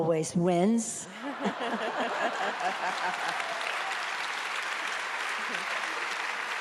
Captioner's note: audience laughs and applauds